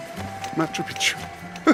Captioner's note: laughs